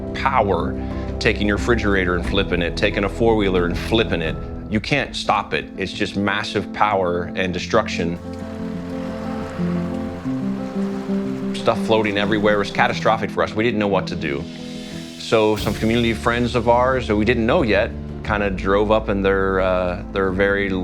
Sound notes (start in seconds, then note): 12.4 car driving in flood